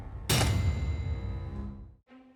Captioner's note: thud, no explosion